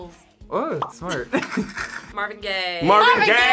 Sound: both laugh

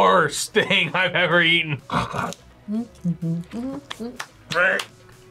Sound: hums; gags

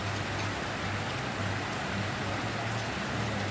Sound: rain Sounds

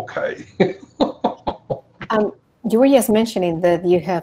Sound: laughs

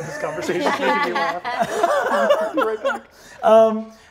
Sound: all laugh

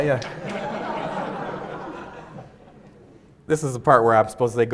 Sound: audience laughs

